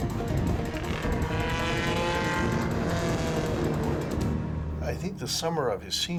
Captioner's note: motor vehicle roars